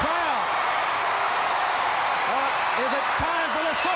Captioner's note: crowd cheering